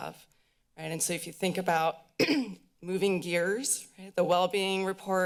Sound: clears throat

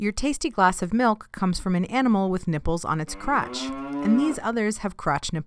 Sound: cow moo

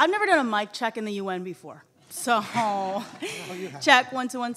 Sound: audience laughing

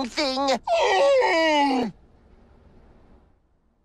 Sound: groan

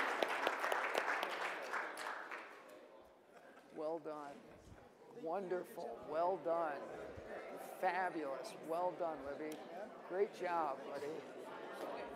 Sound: applause

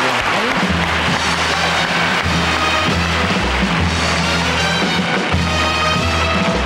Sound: audience applauding; dramatic music

